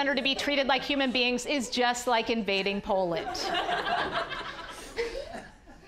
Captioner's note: audience laughing